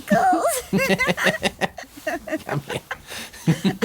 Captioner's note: laughter